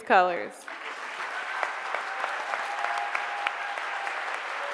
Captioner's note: audience clapping